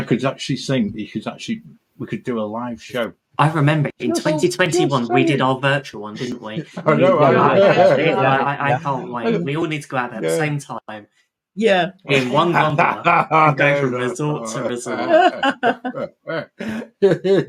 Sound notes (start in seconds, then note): 6.9 all chattering; 12.5 laughs